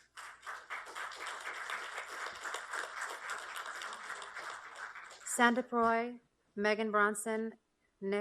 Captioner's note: applause